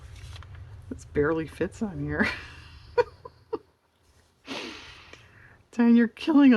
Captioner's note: laughs